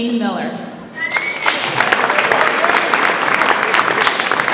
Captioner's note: audience applauds